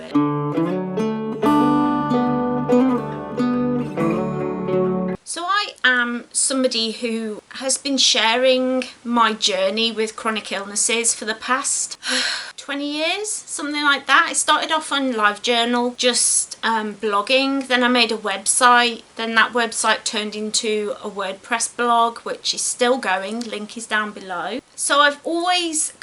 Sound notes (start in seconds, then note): 0.0 gentle folk music plays; 12.0 sighs dramatically